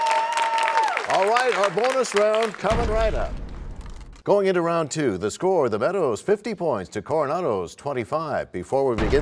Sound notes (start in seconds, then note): 2.7 crashing sound